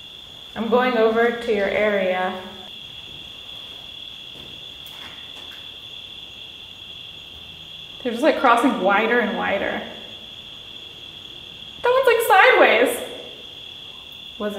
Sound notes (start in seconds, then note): 2.8 crickets chirping